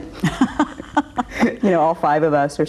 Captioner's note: laughs